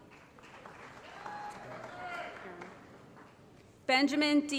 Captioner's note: applause